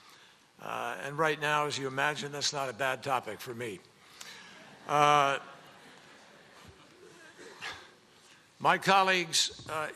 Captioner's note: laughter